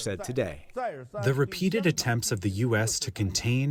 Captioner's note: through translator